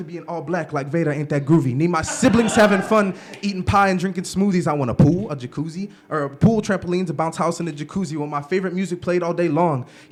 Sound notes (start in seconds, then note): 2.0 laughter